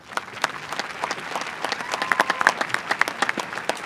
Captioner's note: applause